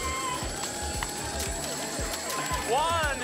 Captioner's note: coins jingling; sirens